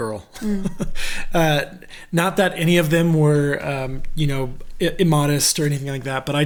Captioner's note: laughs